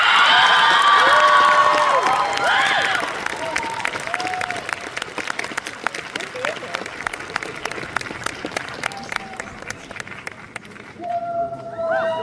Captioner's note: applause